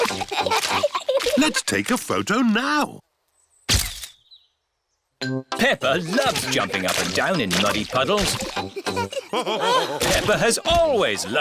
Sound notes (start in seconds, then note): 3.8 camera clicks; 9.4 all laughing